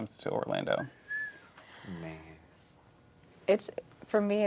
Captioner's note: whistles